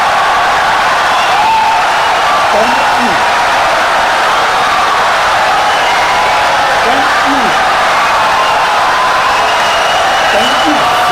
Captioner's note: wild applause and cheering for 17 seconds